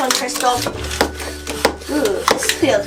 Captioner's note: pumping noise